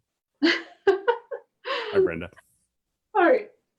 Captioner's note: laughs